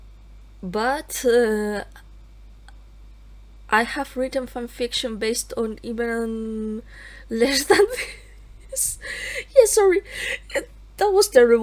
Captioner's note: laughs